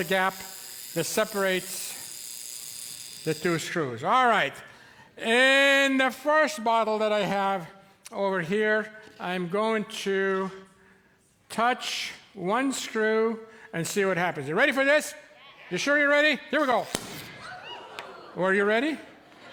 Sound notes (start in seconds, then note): 16.6 current buzzes, cork pops, audience shreiks